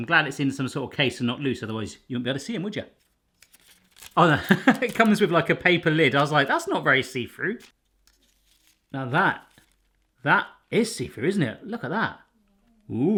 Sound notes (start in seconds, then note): 4.2 laughs